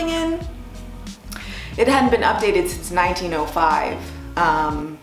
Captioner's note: laughs